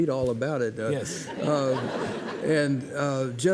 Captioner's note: audience laughing